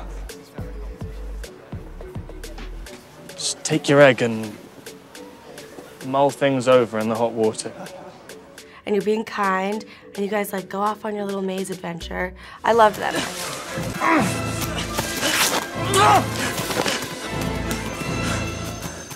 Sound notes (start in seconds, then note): 0.2 gentle music; 12.5 dramatic music; 13.8 grunting